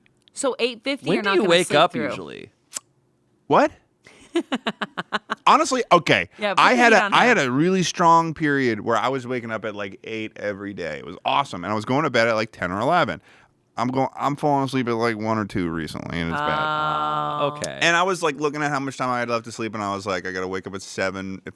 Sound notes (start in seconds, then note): 4.1 laughs